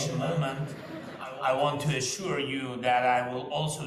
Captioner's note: students laugh